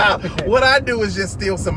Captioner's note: laughter